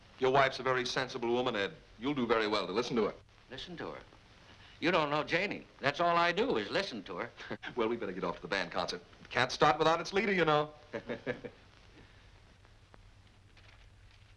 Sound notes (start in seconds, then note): 10.9 chuckles softly